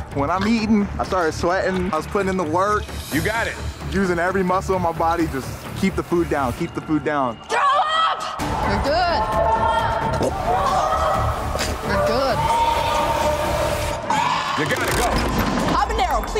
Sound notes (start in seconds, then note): 3.5 dramatic music; 12.3 gagging; 15.5 crank whirring